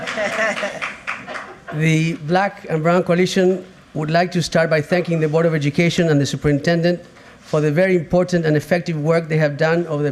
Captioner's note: applause